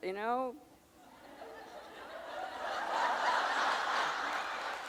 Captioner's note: audience laughing